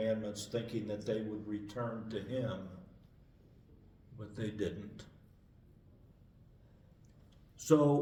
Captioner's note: pause